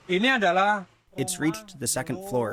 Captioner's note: through translator